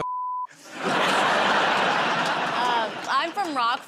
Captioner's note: laughter